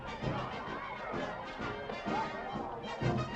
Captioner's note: band playing; people chattering